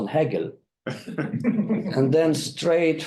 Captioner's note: group laughing